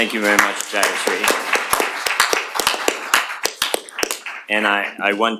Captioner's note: applause